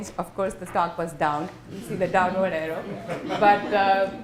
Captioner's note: laughter